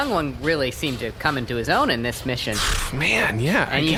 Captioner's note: resigned raspberry noise